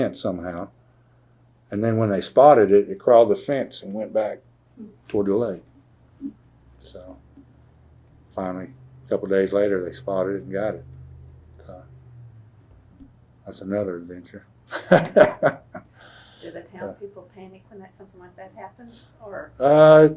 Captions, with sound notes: somehow. Then when they spotted it, it crawled the fence and went back toward the lake. So finally a couple days later, they spotted it and got it. That’s another adventure. (Laughs) Do the town people panic when something like that happens?